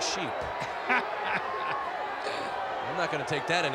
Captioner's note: Lord Alfred Hayes laughs